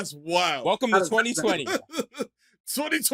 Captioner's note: laughter